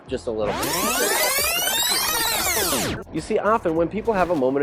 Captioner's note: tape rewinding